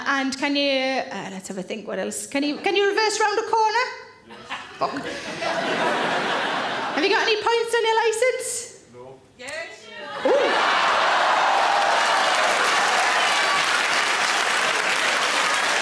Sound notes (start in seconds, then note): 6.2 audience laughs; 10.0 audience cheers; 12.3 audience claps